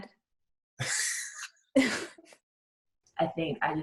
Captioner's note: both laughing